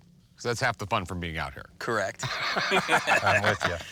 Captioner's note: laughing